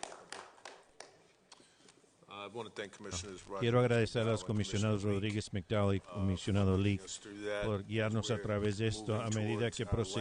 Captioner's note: applause